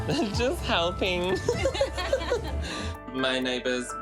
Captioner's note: laughter